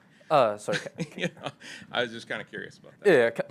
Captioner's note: laughs